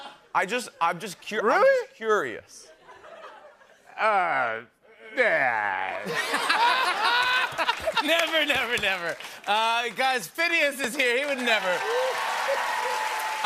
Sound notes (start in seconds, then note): 0.0 laughter; 6.0 laughter; 10.9 cheers and applause